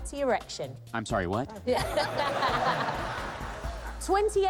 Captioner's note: laughter